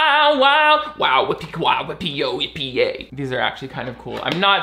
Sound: beatboxing

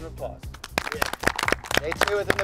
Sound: all applaud

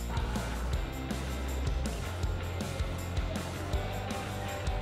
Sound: gym sounds

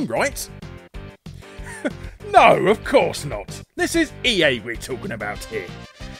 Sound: laughs

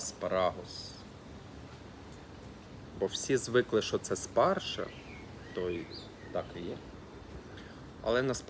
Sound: in Ukrainian

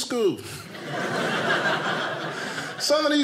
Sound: audience laughing

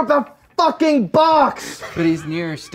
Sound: laughing

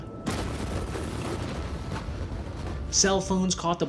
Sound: explosion rumbles

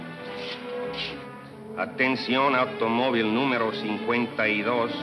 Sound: speaking in Spanish

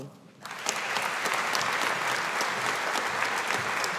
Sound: audience applauding

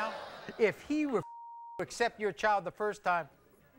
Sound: beeping

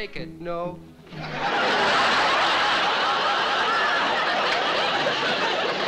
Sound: audience laughing

